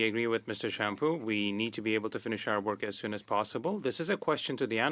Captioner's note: speaking French